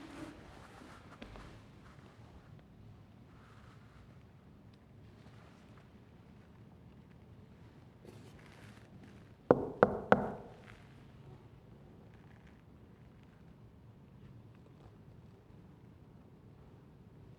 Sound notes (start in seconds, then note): 9.5 knocks on door